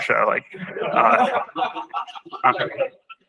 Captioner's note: laughter